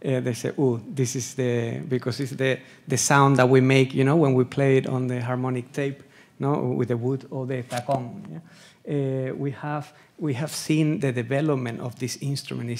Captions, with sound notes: they say, "Ooh, this is the..." Because it's the sound that we make, you know, when we play it on the harmonic tape, know with the wood or the (speaking Spanish), yeah? We have seen the development of this instrument.